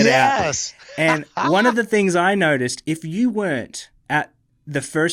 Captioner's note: laughs